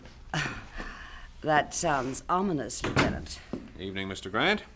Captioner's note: door opens